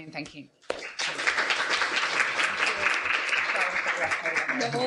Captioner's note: applause